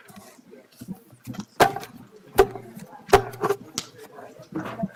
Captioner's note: crowd chattering